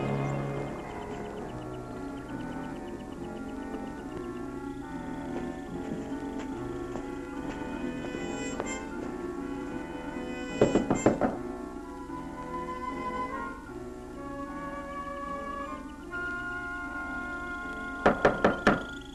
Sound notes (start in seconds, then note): 0.1 dramatic music; 8.3 knocking on door; 18.0 knocking harder